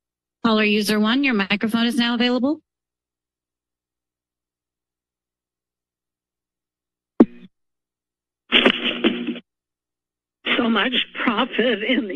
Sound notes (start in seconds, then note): 7.2 microphone thuds; 8.5 static